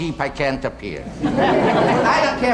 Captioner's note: audience laughing